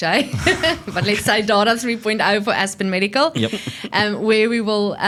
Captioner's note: laughs